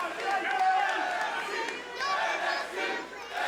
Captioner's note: crowd cheering; crowd chatter